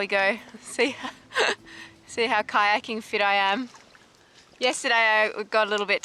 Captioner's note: chuckles